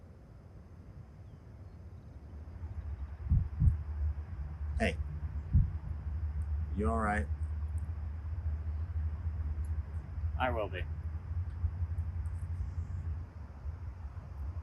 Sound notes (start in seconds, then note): 3.2 heartbeat